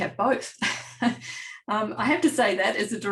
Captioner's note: laughs